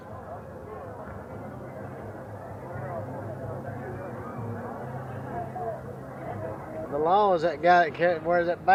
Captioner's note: silence, people chattering in the background